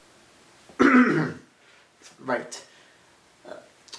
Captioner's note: clears throat